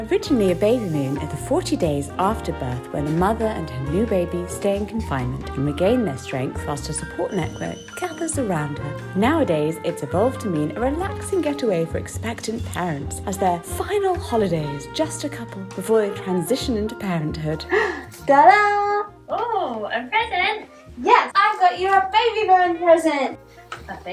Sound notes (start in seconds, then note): 17.6 gasping